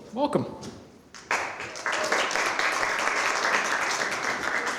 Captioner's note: applause